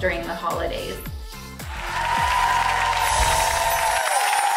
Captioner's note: applause